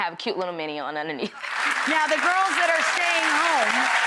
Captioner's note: audience applauds